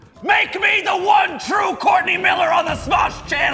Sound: none

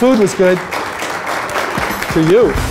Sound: applause

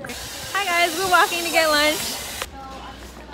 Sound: excruciatingly loud construction noises

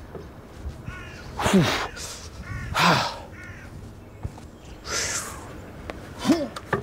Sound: grunts with exertion

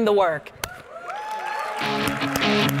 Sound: audience cheering and clapping; upbeat music

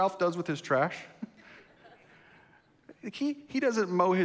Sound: congregation laughs

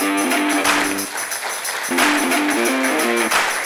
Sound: applause

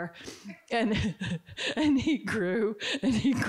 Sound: Barbara chuckling

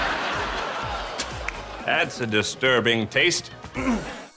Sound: spits

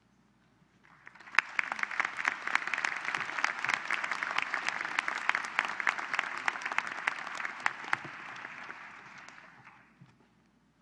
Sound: applause

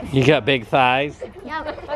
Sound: laughing

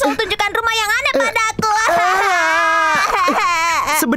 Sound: more crying noises

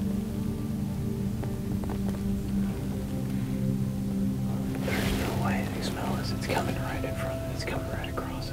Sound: whispering

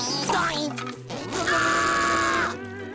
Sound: screaming

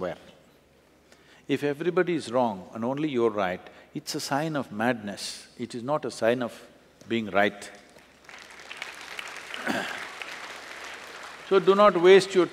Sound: applause

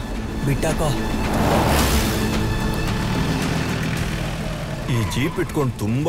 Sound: car Sound

